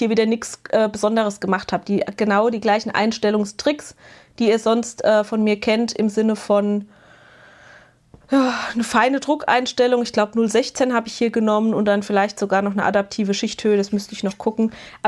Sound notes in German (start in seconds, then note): 6.9 japst; 8.3 seufzt